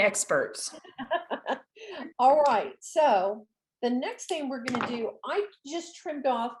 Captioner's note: laughs